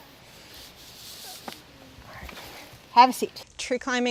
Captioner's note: rope sliding